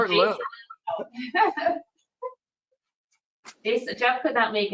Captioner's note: laughs